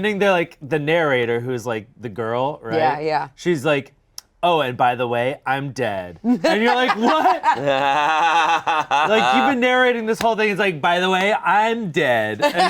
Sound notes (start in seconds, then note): 6.3 laughing; 8.1 Shayne laughing